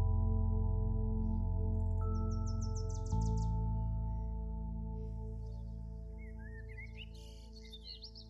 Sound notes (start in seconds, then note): 1.8 birds chirping